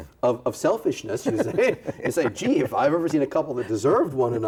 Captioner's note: both laughing